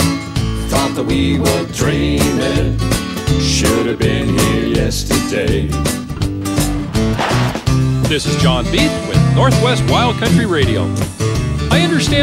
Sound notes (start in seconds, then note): 6.6 sound of tires crunching on gravel